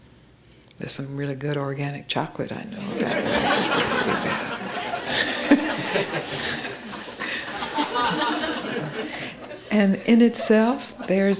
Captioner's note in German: Lachen